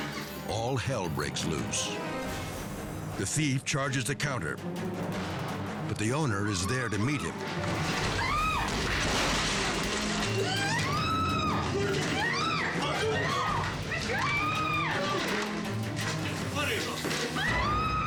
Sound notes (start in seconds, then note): 8.0 staff member screaming; 9.5 dramatic music; 10.4 staff member screaming; 11.9 dramatic music continues